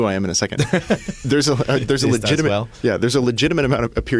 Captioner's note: laughs